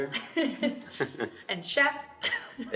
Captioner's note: laughs